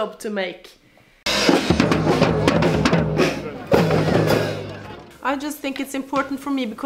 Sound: people chatter indistinctly; drums pound

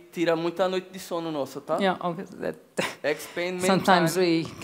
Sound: speaking Portuguese

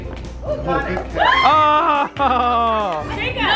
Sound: yelling

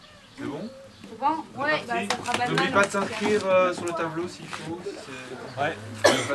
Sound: clapping

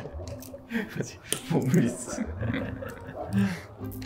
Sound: laughing

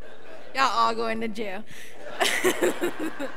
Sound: laughs

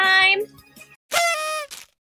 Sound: party horn

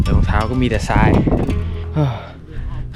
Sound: sigh

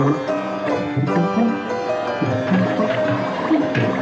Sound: humming

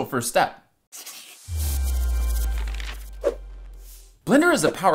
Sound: whooshing sound

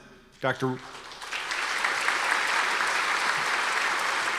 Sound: audience applause

